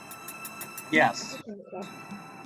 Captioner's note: chatter